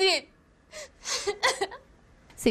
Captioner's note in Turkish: Ağlama sesi